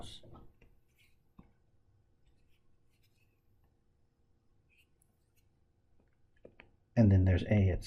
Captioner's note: tapping Sounds